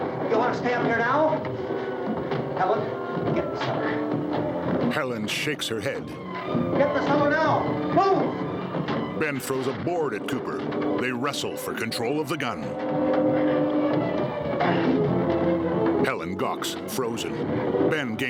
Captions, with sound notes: You wanna stay up here now? Helen, get in the cellar. Get in the cellar now. Move! [wood crashing] [Harry grunting]